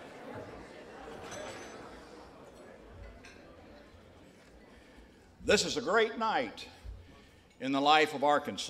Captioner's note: conversations subside